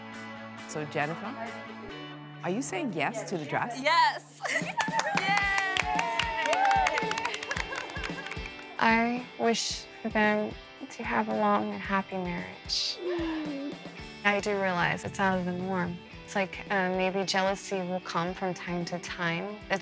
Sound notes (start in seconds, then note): 0.0 instrumental music playing; 6.9 cheering